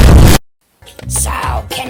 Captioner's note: Glitch